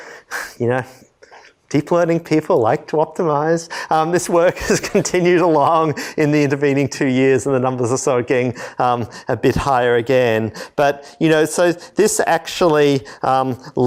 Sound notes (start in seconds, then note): 4.4 laughter